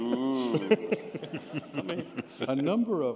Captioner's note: laughter